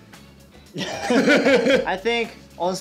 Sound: laughs

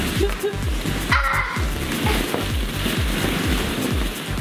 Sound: laughing

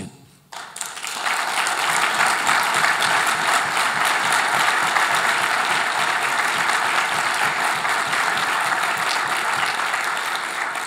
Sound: applause

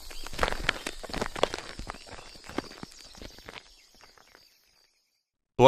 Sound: footsteps trailing off, jungle ambiance fades out

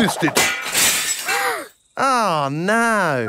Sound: shatters

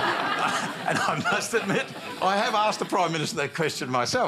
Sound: laughter

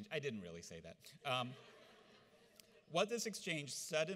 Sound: audience laughs

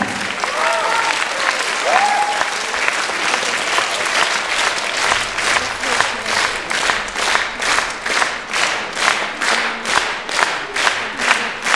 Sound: applause

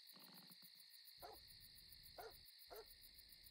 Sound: dog barking

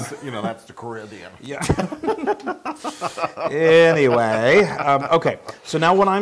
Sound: laugh

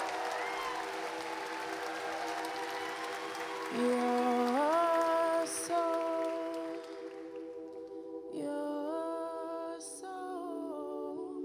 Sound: cheers and applause

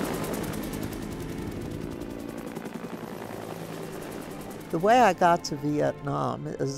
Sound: helicopter sounds

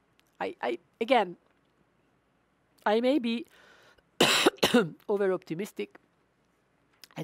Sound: coughs

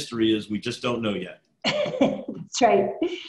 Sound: laughs

